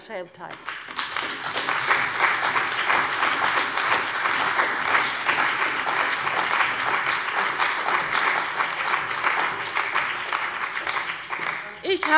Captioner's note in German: Beifall bei der CDU und dem BÜNDNIS 90/DIE GRÜNEN